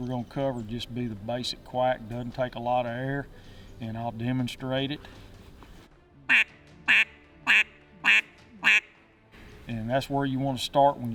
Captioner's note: quack